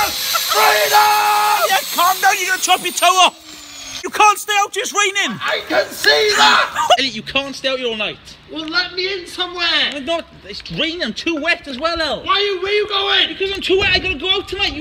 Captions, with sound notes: FREEDOM! Elliot calm down you gonna chop your toe off! *Powers down* You can't stay out here, it's raining! I...I CAN SEE THAT! Elliot you can't stay out here all night. Well, let me in somewhere! Not, it's raining, I'm too wet as well El. Why you, where you going? Because I'm too wet I gotta go out tonight